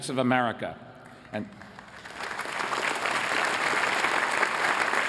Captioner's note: applause